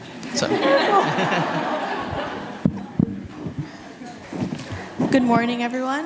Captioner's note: audience laughs and applauds